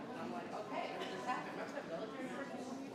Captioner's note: speaks faintly